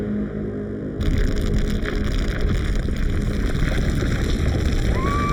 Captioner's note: dramatic music; ground rumbling; Glenda screaming